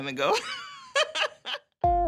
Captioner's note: laughs